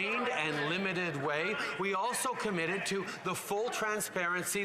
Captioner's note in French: voix de l'interprète